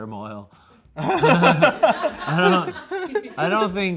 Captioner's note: everyone laughs